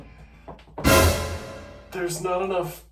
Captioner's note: scary Noise